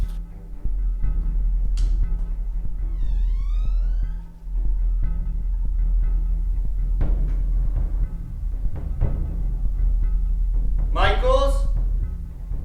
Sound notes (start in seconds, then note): 2.8 hinges of door squeaking; 7.1 intense foreboding music